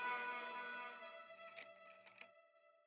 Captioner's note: camera snapping